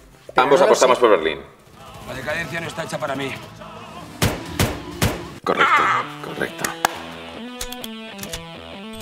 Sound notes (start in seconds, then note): 4.0 shots